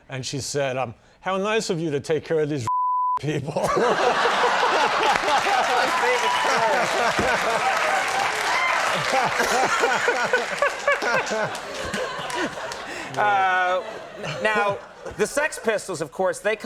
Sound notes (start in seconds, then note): 3.6 audience laughing; 5.2 audience clapping and cheering